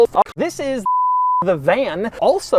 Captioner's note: bars and tone